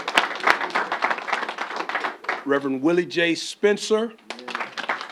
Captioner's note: applause; applause